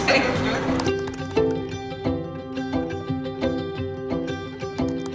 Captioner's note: keyboard keys clicking